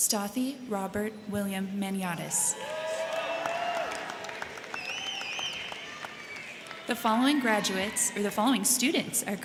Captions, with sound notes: Stathi Robert William Maniatis. (crowd cheering) (crowd clapping) The following graduates or the following students